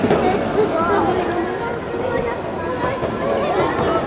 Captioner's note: crowd chattering